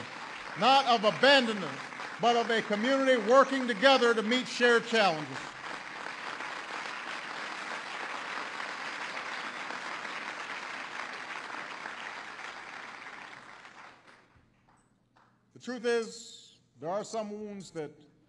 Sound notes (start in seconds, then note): 10.1 applause